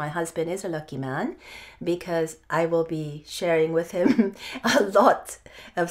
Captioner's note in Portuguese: risos